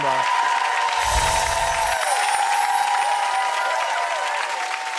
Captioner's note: crowd cheering and applauding